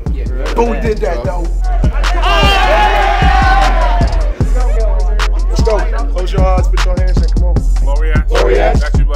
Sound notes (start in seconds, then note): 1.7 cheering